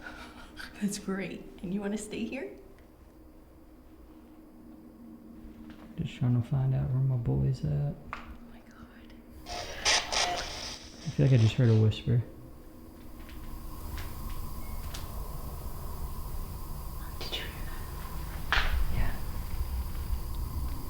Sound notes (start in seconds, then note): 0.1 laughing; 9.5 spirit box voice; 13.0 footsteps